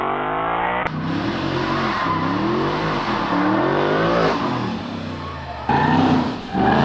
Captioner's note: engine motor revving